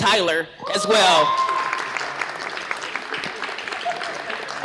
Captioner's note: cheering, applause